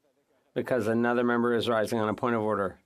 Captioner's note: speaking French